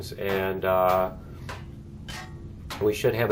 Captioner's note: pinging continues